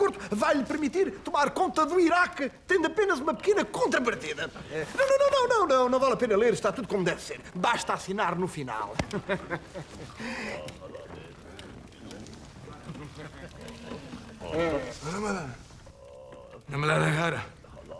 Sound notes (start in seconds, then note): 9.0 Von Block laughs, pseudo-Arabic gibberish; 15.0 Pseudo-Arabic gibberish, fake pseudo-Arabic gibberish from Alvega's